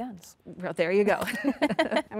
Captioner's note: laughs